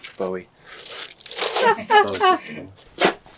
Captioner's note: laughter